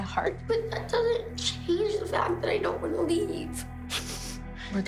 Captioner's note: sniffles